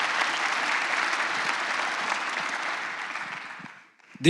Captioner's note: applause